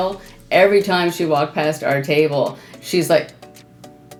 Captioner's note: exhales